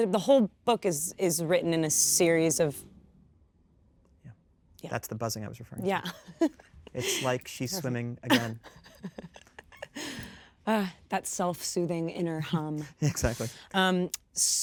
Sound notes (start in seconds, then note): 1.4 electricity buzzes; 6.8 chuckles; 8.2 Kristen chuckles